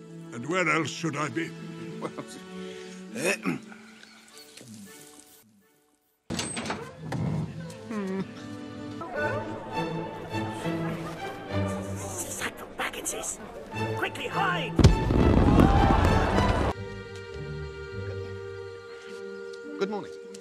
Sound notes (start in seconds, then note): 3.3 pointedly clears throat